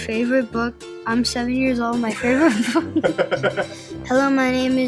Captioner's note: laughing